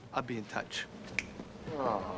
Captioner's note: snaps fingers